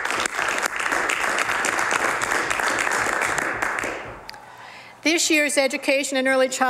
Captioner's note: some Applause